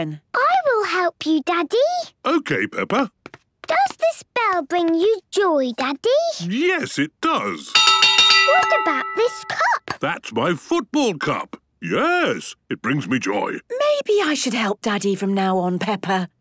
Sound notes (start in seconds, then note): 7.7 clanging